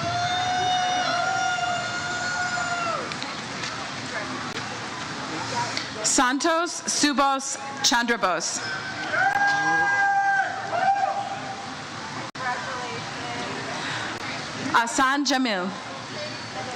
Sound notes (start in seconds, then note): 0.0 crowd cheers; 9.2 audience member cheers